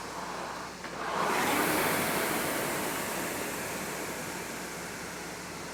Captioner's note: rowing machine whirring